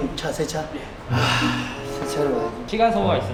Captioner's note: sighs